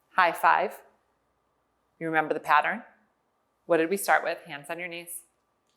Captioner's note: none